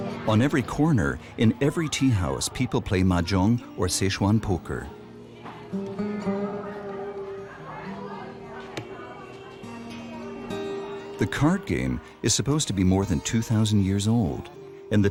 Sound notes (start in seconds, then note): 0.0 people chanting; 0.0 soft music; 5.5 soft music; 6.4 people chanting